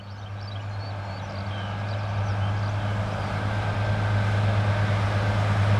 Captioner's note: mower approaches